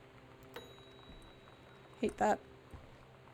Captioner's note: bell Dings